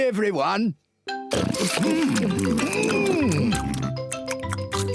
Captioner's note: all chomping